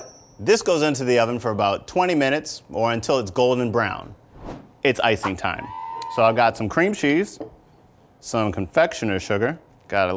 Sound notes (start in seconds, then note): 5.4 cheering